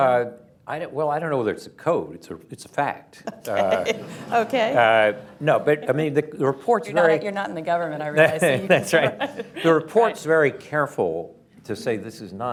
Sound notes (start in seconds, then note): 3.2 laughter; 3.2 laughs; 8.1 laughs, laughter